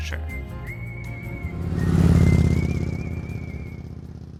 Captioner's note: lively music; motorbike roaring